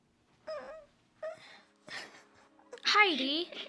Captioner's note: crying